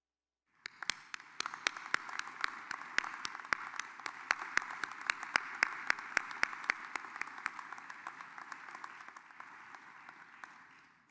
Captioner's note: applause